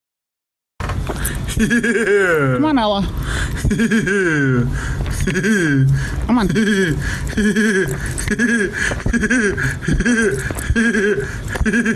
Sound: laughing

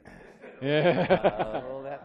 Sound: laughter

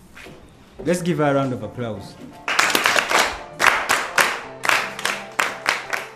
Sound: applause

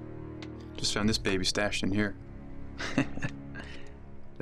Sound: chuckles

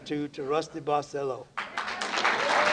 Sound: applause

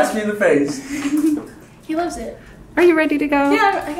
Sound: laughing

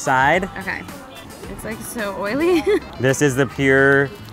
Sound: laughs

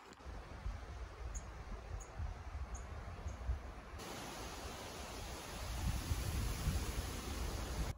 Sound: sound of the wind, bird chirping

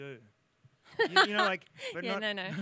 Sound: laughs

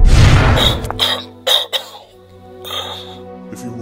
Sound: cough; deep Breath

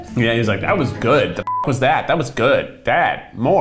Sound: beeps

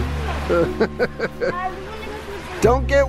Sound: laughs

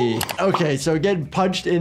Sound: mouse clicks

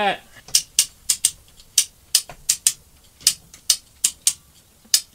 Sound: metal clicking

